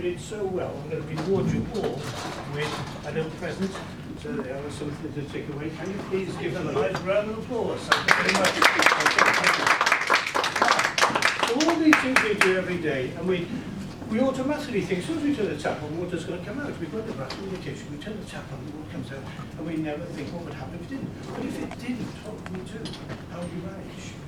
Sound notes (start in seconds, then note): 8.0 audience applause